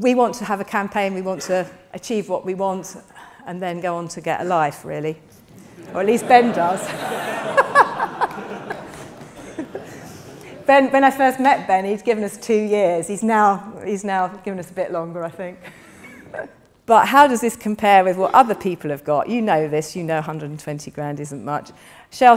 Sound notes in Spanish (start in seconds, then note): 5.5 risas del público; 10.4 risas